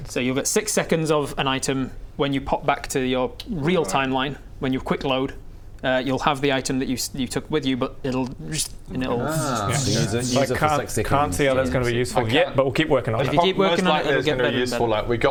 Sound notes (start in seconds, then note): 8.4 zrrst